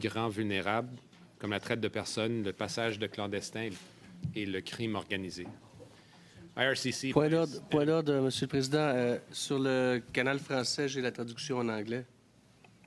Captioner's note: speaking French